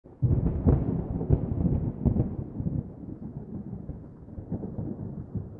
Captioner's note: thunder